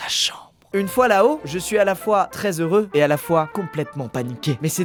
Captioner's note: whispers